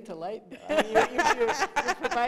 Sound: laughter

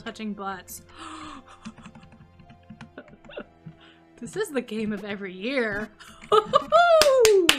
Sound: gasps and laughs; claps and laughs

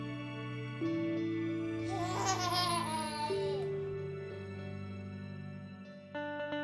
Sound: laughs

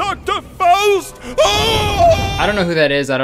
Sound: terrified yelling

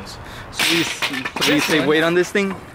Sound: metal clattering

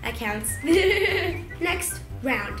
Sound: laughs

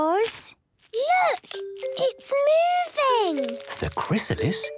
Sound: whispering

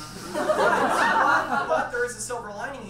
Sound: audience laughs

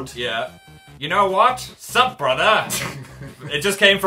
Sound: tries annoying voice; sniggers

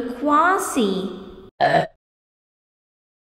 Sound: burp

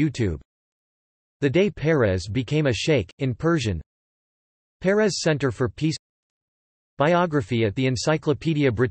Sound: in Persian

